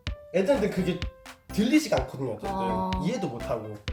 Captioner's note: excited